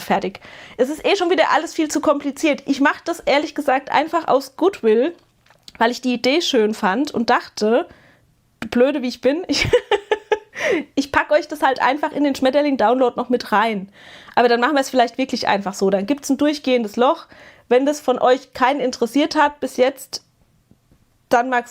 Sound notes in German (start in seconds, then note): 9.5 gelächter